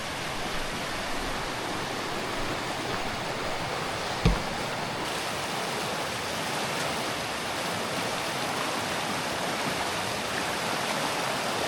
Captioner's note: water splashing